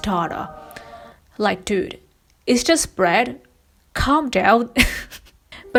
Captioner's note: laughs